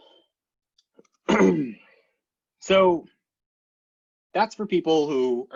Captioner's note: clears throat